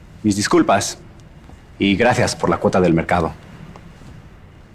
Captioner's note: Spanish